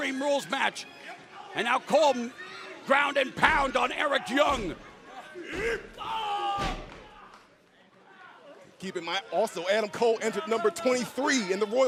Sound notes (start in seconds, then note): 9.1 crowd chatter